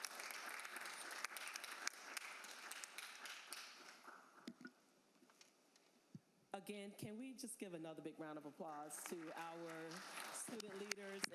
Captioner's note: applause